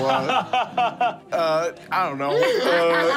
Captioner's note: laughing